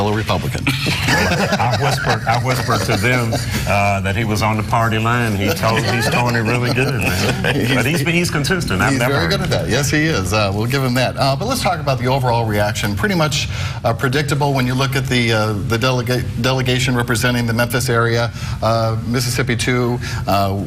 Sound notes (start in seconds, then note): 5.3 laughter